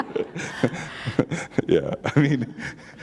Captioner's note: laughter